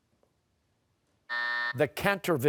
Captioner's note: buzzer